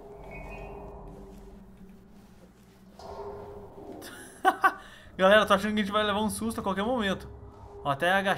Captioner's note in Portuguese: risos